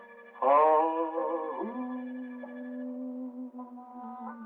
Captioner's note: howling